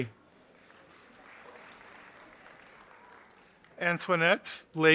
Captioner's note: audience applauding